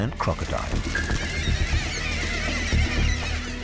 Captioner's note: squawking